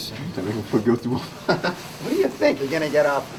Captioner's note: chuckle